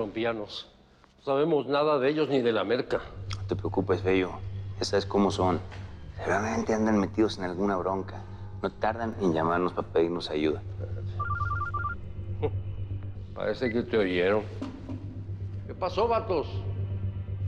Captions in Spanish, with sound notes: - YA ME TIENEN HASTA LA MADRE ESTOS COLOMBIANOS. NO SABEMOS NADA DE ELLOS NI DE LA MERCA. - NO TE PREOCUPES, FEYO, YA SABES COMO SON, SEGURAMENTE, ANDEN METIDOS EN ALGUNA BRONCA. NO TARDAN EN LLAMARNOS PA' PEDIRNOS AYUDA. [Suena un celular] - !JUM! PARECE QUE TE OYERON.